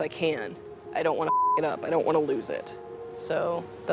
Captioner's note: beep